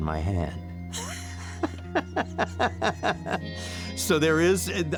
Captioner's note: laughing